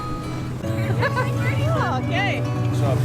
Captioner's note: woman laughing